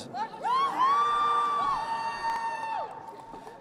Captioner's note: crowd cheering